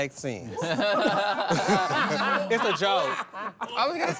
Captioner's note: everyone laughs